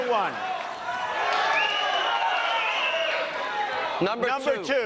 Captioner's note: cheers; bigger cheers